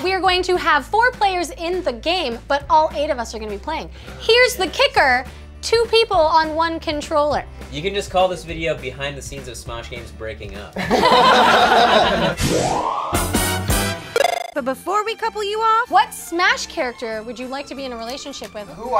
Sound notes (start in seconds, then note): 10.8 group laughs; 12.6 bright video game music